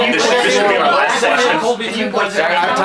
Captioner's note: reporters clamoring